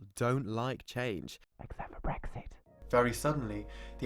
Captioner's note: whispering